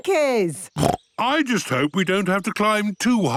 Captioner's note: snorts